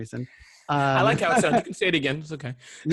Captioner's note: laughing